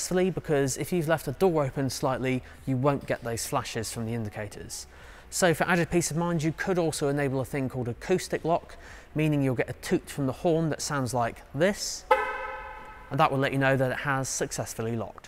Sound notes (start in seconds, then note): 12.0 car Horn